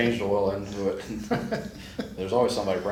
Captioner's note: laughs